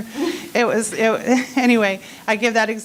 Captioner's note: laughing